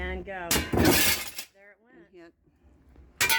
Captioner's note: breaking glass